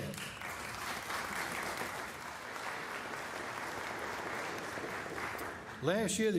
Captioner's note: applause